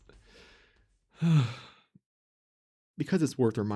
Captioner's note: sigh